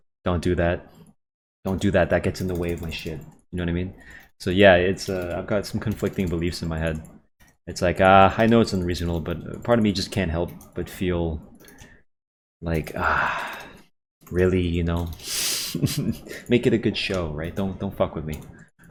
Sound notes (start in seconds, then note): 13.0 sighs; 15.6 chuckles